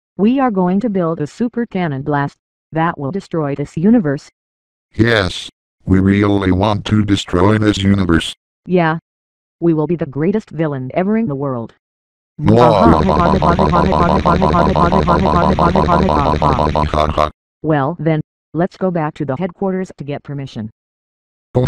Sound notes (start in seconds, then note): 10.6 Microsoft Anna and Natural Microsoft Sam laughing